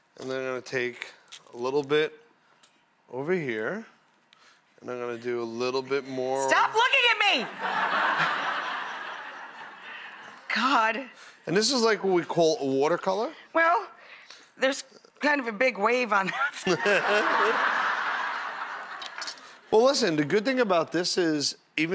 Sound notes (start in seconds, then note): 7.4 audience laughs; 16.4 laughing; 16.5 Buddy and audience laugh